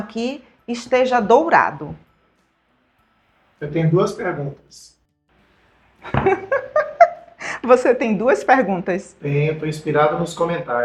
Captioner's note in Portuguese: risadas